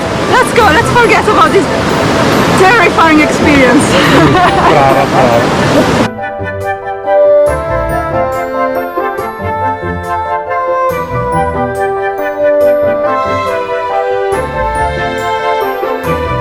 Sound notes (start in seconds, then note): 3.9 speaking Italian; 5.9 happy instrumental music